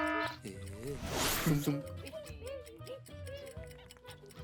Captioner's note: alarm blaring; clock ticking